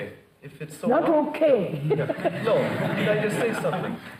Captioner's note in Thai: หัวเราะ